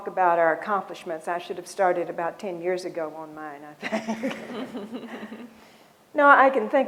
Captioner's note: laughs